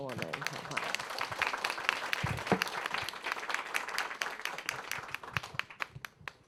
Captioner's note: audience applause